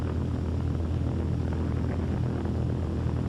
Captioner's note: airship droning